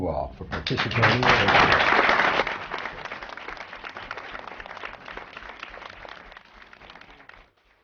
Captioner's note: applause